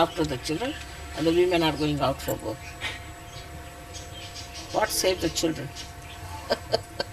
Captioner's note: shree mataji laughs